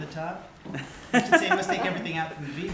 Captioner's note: laughter